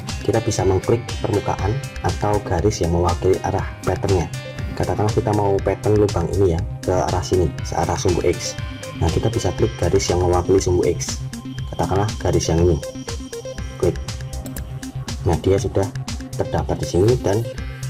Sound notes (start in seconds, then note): 14.4 click